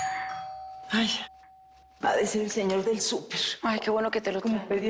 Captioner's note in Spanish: Timbre de la puerta